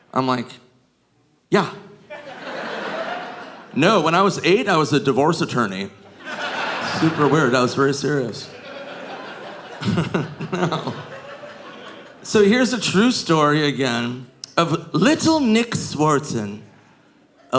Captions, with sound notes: I'm like, "Yeah. No, when I was eight, I was a divorce attorney. Super weird. I was very serious." (chuckles) No. So here's a true story again of little Nick Swardson,